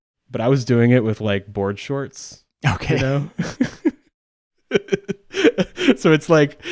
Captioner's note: laughs